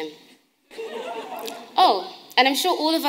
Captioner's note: audience laughing